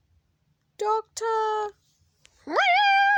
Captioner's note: whimpering